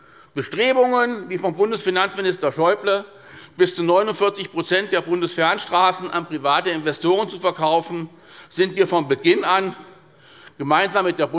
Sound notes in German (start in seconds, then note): none